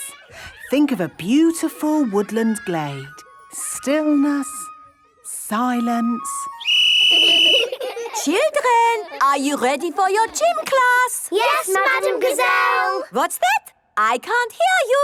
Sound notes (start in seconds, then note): 6.4 whistle blowing; 7.0 laughter